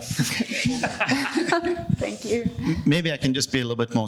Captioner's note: laughing